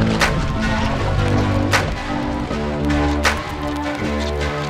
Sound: water splashing

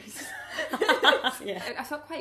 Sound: laughing

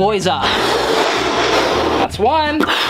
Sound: blowing sound

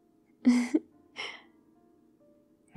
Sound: laughs

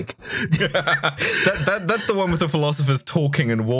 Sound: laughter

